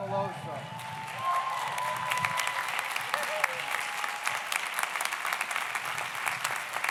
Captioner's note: audience cheers; audience applauds